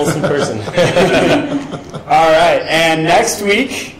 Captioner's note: laughing